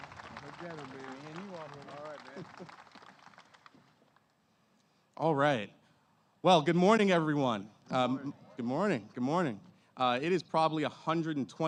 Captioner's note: applause